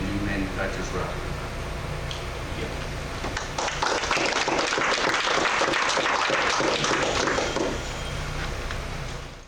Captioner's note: clapping